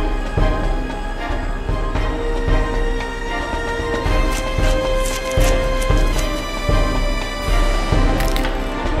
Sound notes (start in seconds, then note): 4.2 more chewing